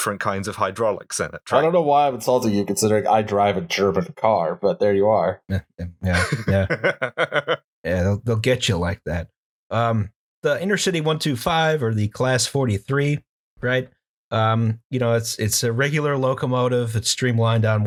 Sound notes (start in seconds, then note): 6.0 laughter